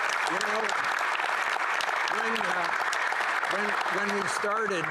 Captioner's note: applause